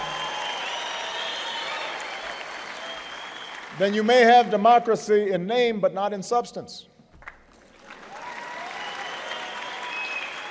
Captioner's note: applause